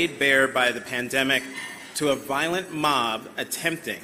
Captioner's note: none